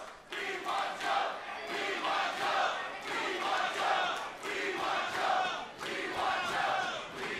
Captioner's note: fans chanting